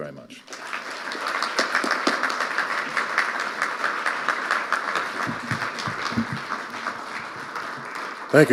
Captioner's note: audience applauding